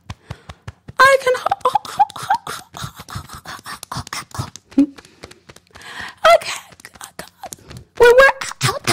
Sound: beating Chest

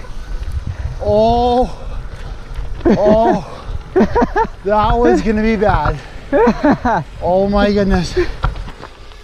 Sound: hahahahah

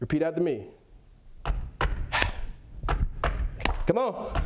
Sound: stomps and claps his hands to song

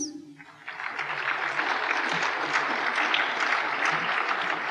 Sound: applause

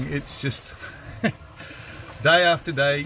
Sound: laughs

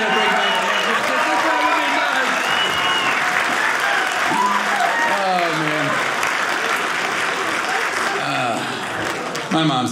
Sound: audience cheering

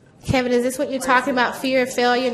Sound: voiceover

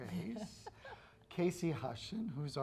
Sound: laughing

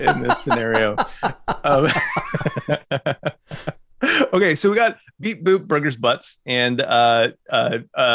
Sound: laughter

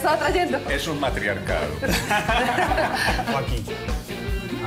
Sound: laugh

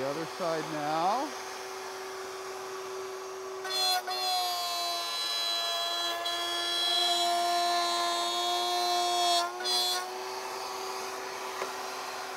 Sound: saw revving

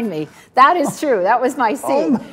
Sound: Tony chuckles

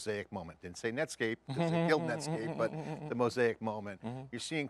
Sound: laughing

